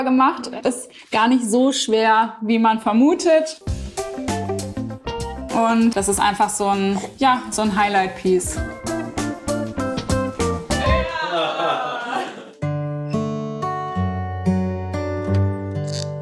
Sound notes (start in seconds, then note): 3.6 playful music; 8.5 playful music; 10.7 they cheer; 12.6 contemplative music